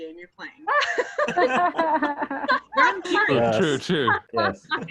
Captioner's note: laughing